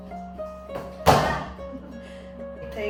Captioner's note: shoe falling on the floor